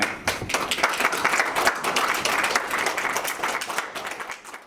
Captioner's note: audience applauds